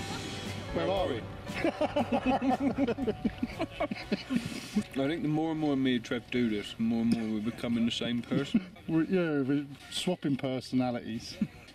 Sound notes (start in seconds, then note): 1.5 laugh